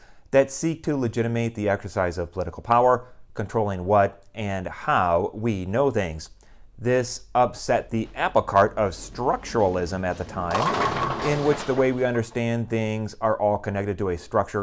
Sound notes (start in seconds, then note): 7.3 bowling pins knocked down